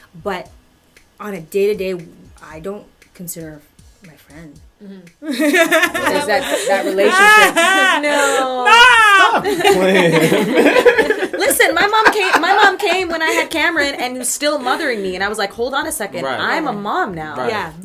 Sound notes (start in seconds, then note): 9.2 laughter